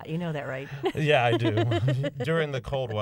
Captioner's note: laughter